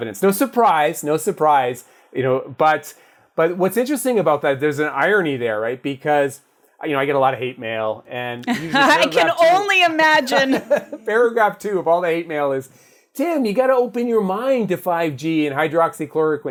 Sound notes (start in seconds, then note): 10.2 laugh